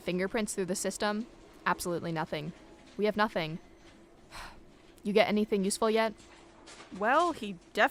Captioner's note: sigh